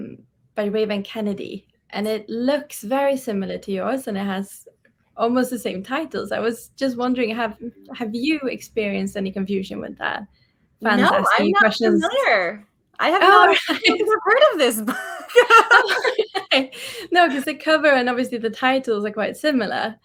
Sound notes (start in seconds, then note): 13.2 laughs